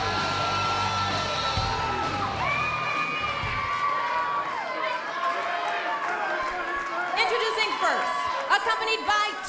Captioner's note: cheers and applause